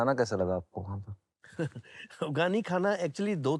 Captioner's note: laughs